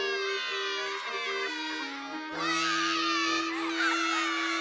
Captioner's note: all Sobbing; sobbing Continues